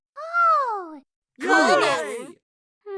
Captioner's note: cheers